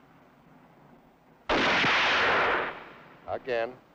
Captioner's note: gun fires